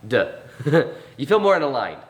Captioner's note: chuckles